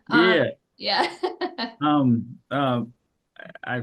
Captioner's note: laughs